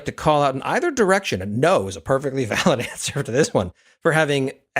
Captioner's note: laugh